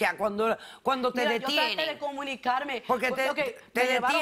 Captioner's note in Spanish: Hablan al unísono